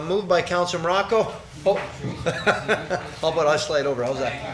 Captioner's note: laughs